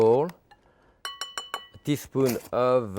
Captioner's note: spoon tapping